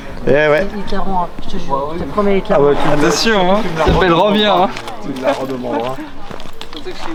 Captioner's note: none